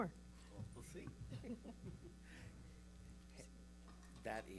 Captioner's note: chuckles